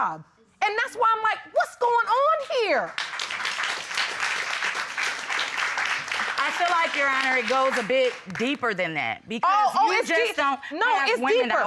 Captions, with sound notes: And that's why I'm like, "What's going on here?" [applause] I feel like, Your Honor, it goes a bit deeper than that -because you just don't have women out here... -Oh, it's deep. It's deeper.